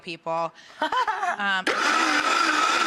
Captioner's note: laughing; blender buzzing